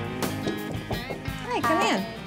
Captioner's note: knocking